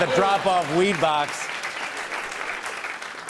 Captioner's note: applause